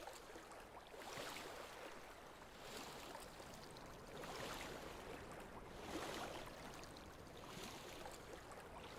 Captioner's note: water splashing